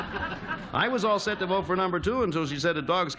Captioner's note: laughter